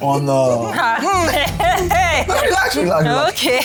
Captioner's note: laughs